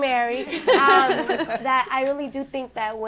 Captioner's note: laughter